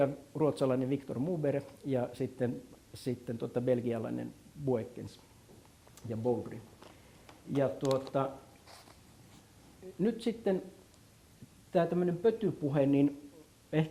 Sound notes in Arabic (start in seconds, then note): 1.0 باللغة السويدية